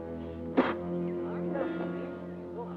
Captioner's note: Don spits; Japanese troops chattering